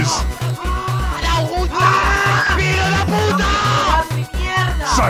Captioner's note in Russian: безумные крики мексиканцев